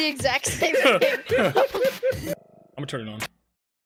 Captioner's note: all laughing